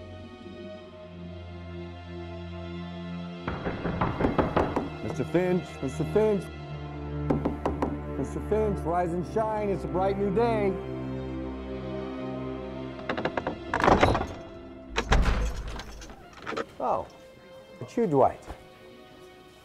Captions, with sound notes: (knocking) - Mr. Finch, Mr. Finch. (knocking) Mr. Finch, rise and shine. It's a bright new day. (door creaks) Oh, it's you, Dwight.